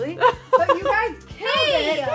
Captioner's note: women laughing